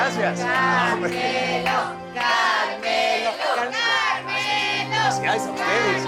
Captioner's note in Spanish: Todos corean; Continúan coreando